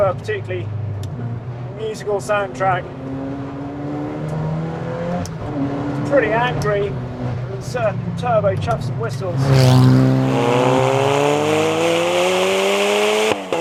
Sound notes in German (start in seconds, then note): 3.1 Motorgeräusche gehen weiter; 9.9 Motorgeräusche werden lauter